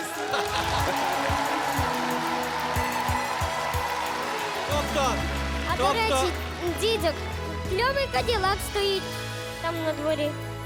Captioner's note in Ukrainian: оплески